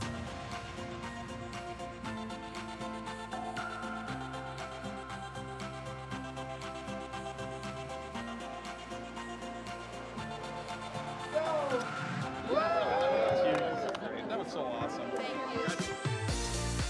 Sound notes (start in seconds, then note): 12.4 cheers